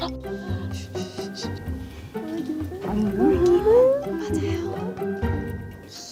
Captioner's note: ssst